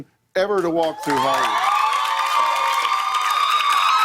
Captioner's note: cheers and applause